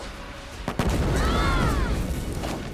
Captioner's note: screaming